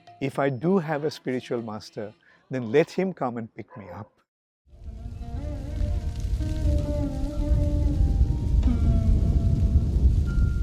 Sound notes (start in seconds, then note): 6.4 fire crackling